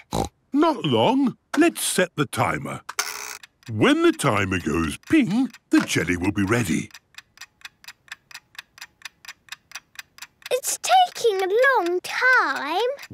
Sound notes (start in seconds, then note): 0.0 snorts; 7.2 ticking